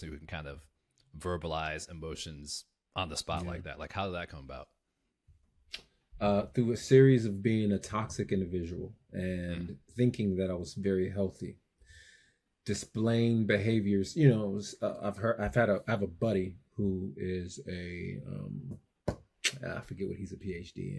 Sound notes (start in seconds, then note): none